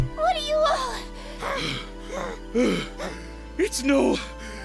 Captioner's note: exhausted panting